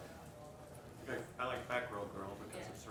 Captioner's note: voiceover